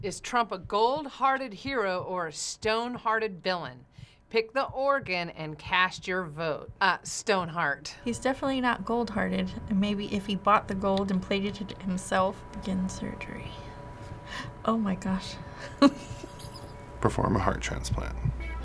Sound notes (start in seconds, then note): 13.7 gasps; 15.6 snickering